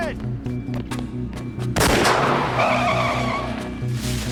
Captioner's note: gunshot